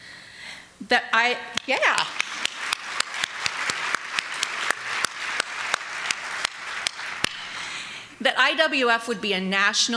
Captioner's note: applause